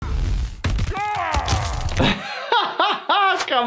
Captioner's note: ribs cracking